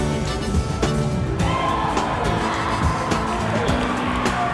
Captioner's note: crowd cheers